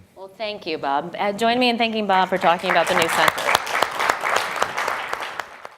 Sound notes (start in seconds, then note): 2.4 audience applause